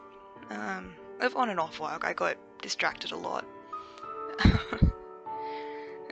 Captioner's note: laughs